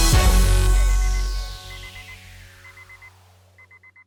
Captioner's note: alarm clock beeping faintly